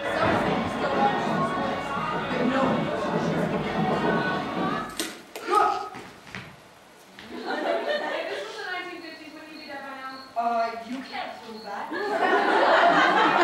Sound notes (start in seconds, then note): 4.9 twig cracks; 7.3 audience laughter; 11.9 audience laughter